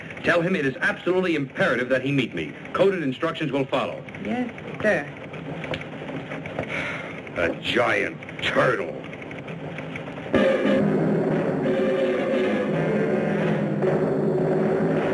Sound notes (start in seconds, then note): 6.6 sighs; 9.8 dramatic music